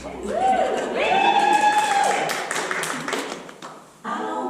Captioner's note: applause